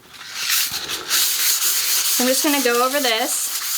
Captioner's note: sandpaper scratching